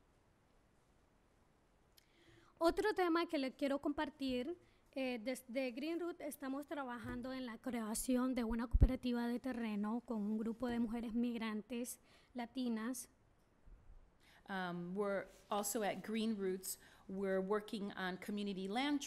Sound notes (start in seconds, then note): 2.5 speaking spanish